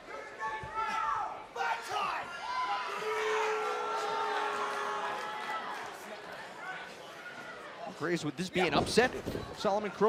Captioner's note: crowd chatter